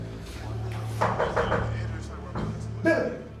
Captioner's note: knocks on door